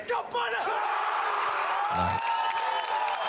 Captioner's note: screaming; cheering and applause